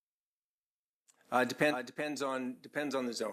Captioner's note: speaking French